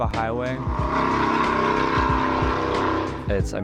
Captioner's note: truck engine